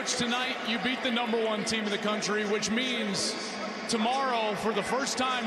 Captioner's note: cheers and applause